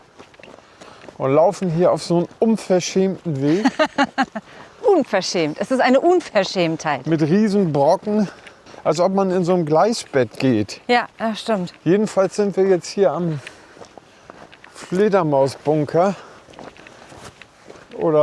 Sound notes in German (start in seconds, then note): 3.4 gelächter